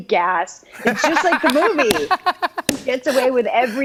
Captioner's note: laughs